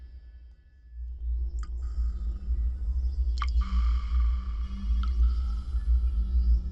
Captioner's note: water dripping